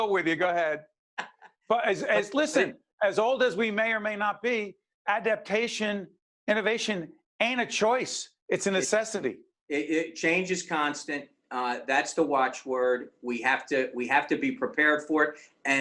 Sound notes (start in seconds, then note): 1.1 laughing